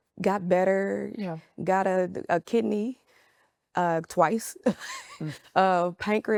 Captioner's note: laughs